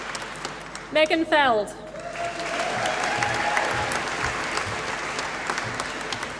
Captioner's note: applause